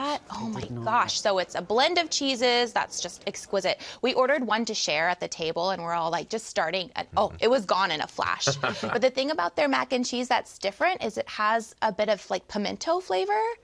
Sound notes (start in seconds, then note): 8.4 laughs